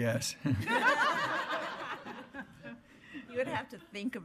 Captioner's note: laughing